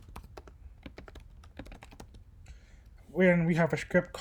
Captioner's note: typing